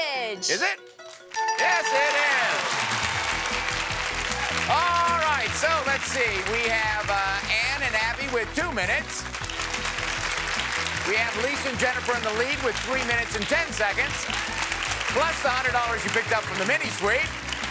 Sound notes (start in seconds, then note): 1.3 bell rings; 3.0 applause; 9.1 applause